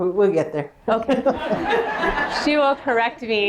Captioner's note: laughter